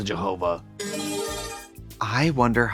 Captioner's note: bright chime